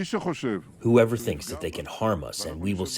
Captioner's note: through translator